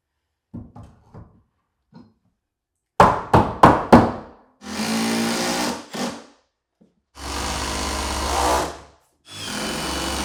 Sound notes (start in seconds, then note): 6.0 drill whirring